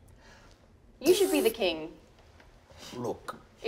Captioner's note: imitates whizzing